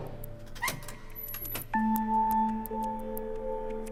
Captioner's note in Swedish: rycker på dörren